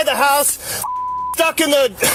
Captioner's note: beep